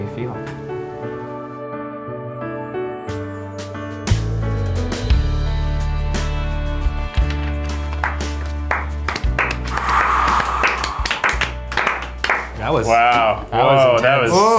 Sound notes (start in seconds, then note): 7.1 everyone claps; 14.4 sighing